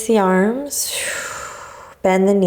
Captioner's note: exhaling